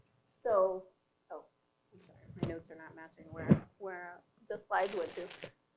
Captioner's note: voice distorting